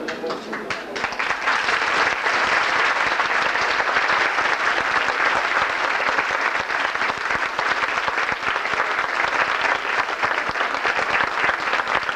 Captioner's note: applause